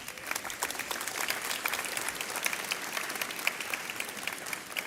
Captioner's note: audience applauds